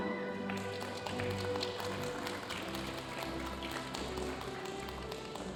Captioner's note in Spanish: aplausos de la audiencia